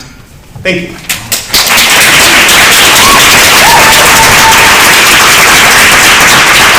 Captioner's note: crowd cheering and applause